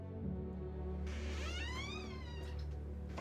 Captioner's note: door creaking